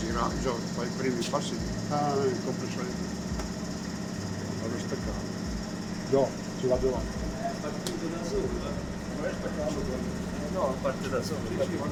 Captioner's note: air compressor noise